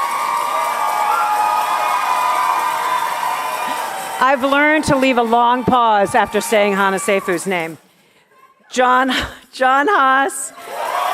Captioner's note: cheers and applause